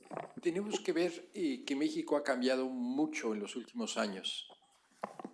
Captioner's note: speaking spanish